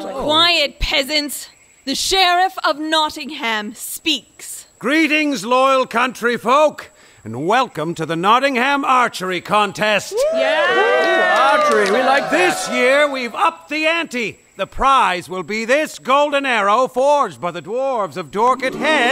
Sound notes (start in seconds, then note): 10.0 enthusiastic cheering